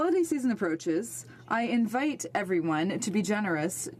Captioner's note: speaking French